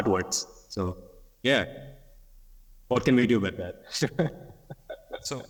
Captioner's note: laughs